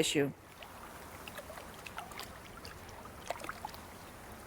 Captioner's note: water gurgling